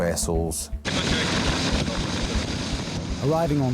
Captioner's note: lifeboat engine whirring